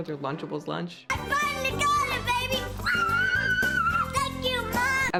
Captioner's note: screams